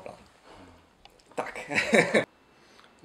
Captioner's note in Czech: smích